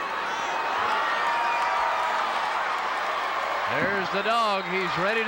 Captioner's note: audience cheering